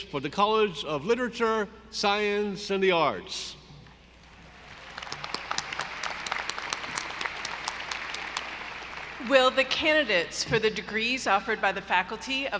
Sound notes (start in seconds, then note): 4.4 audience applauding